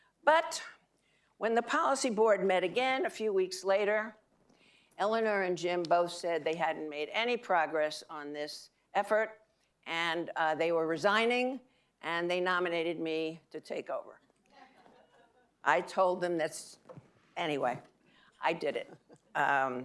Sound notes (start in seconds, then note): 14.6 audience laughing